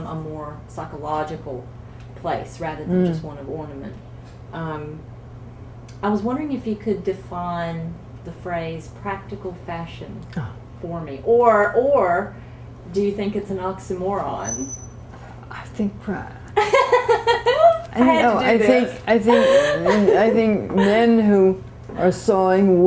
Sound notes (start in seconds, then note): 14.8 laughter